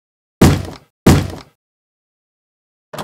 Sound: knock

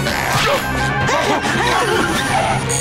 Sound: panting

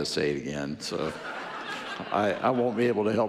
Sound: audience laughing

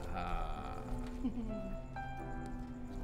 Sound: chuckling

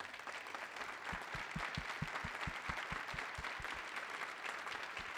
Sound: applause

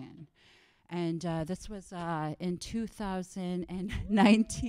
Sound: laughs

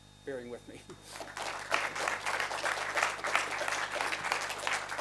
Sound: applause

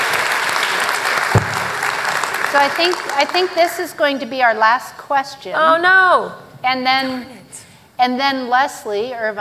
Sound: applause

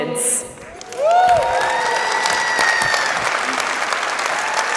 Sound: audience applauding

